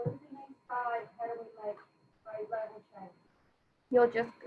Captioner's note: speaking faintly